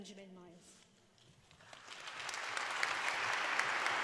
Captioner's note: applause